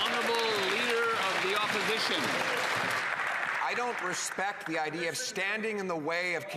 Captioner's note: some Applause